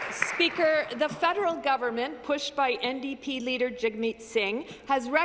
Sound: some Applause

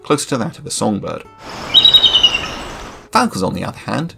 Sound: eagle Trilling

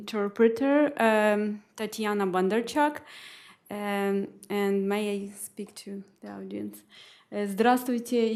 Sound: speaking spanish

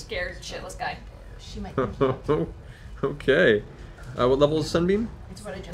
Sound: laughs

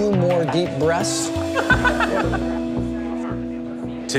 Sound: laughs

